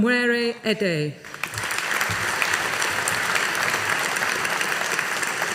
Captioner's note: audience applauding